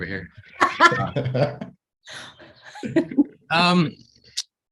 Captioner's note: panelists laugh